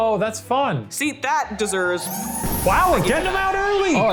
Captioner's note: sirens blaring